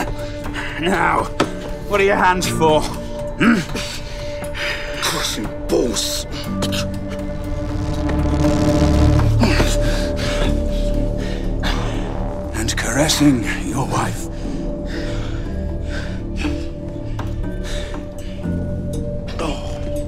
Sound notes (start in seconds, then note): 0.0 tense laugh; 6.7 both grunting; 14.2 both breathing hard